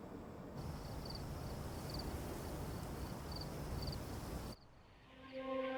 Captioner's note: crickets chirp; leaves rustle